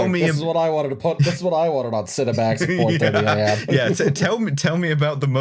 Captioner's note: laughs